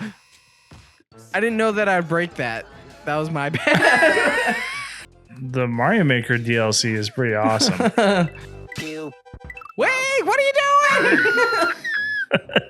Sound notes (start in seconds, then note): 0.6 screams; 3.5 both laughing; 12.4 both laughing